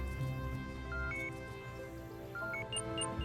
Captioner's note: beeping sounds